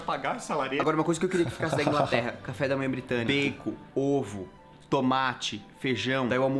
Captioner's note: laughs